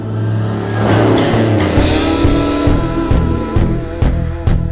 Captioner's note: car engine revving